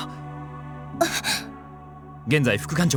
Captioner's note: gasp